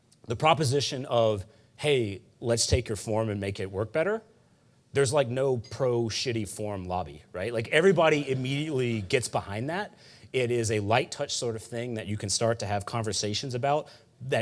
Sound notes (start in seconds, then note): 8.0 audience laughing